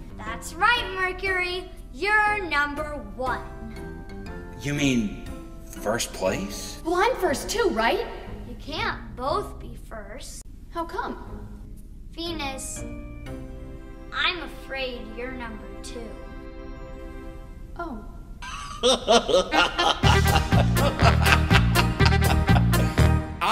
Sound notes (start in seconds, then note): 18.4 laughing; 19.0 upbeat music